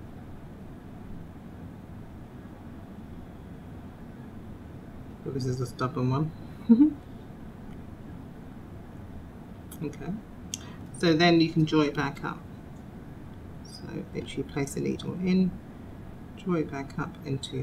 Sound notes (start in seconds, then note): 6.6 laughter